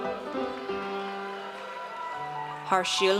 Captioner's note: audience cheers